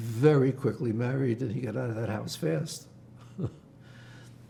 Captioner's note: laughing